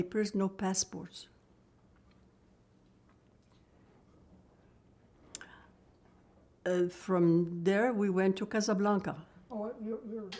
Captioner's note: pauses 6 seconds